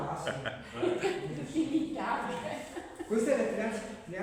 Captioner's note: laughter